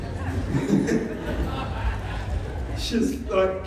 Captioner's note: laughter